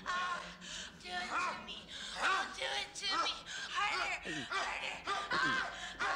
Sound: man Grunting; gulping

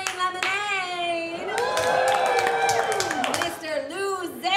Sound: cheering

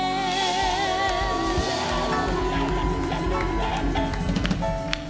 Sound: applause

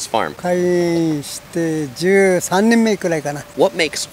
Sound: speaking in foreign language

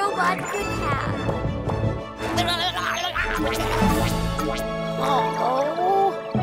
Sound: energetic music; Cozmo gurgling

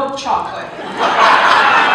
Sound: laughter

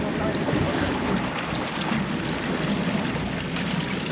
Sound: splashing

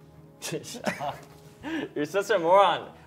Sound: laughs

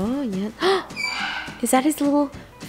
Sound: gasps loudly

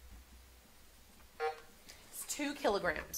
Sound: buzzer sounding

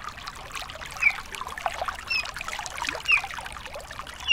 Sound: water splashing; bird chirping

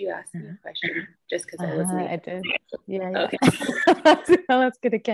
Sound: laughter

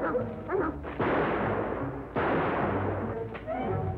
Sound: gunshots

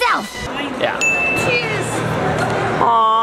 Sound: ding

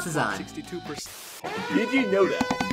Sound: TV Static

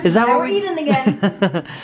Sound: voiceover

